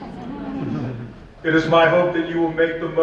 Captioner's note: laughing